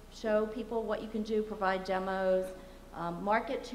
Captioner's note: none